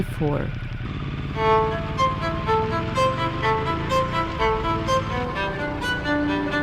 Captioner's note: motorcycle roaring; pensive music